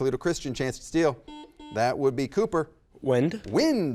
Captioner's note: button beeping